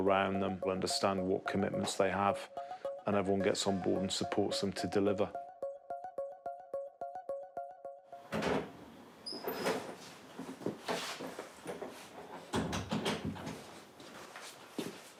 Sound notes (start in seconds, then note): 9.3 thudding, door hinges squeak; 12.5 door shuts